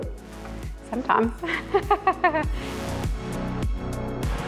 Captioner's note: laughs